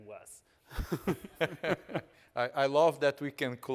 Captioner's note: all chuckling